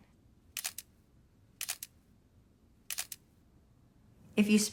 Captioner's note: camera clicking